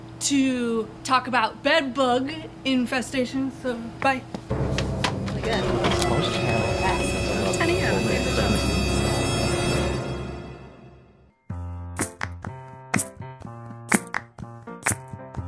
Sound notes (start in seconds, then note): 4.5 mysterious creepy strings playing; 5.3 crowd murmuring